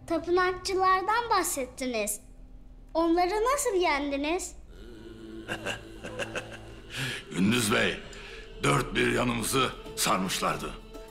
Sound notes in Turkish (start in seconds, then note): 5.5 Gülme sesi